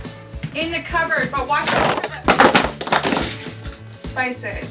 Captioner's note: rattling